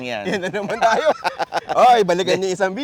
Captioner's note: laughs